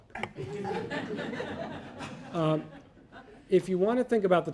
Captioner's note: audience laughing